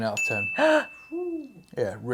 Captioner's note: bell dings; gasps